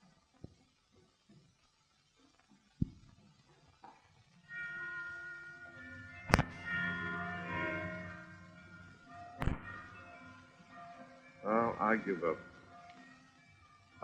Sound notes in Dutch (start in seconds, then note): 4.7 klokken luiden